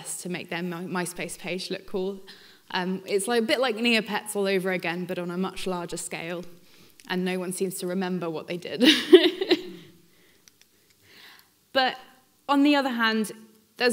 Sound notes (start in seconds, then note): 8.9 laughs